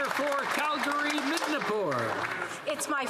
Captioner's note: some Applause